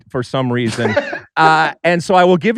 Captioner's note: laughs